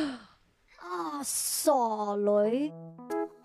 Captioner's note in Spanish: en cantonés